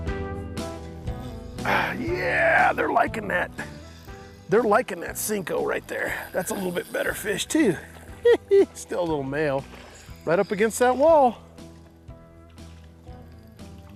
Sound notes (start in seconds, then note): 7.8 giggles